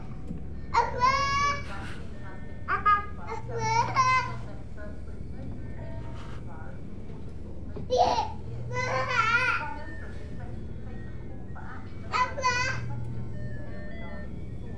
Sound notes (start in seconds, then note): 0.3 baby chatters; 6.6 baby chatters and giggles; 11.5 chatters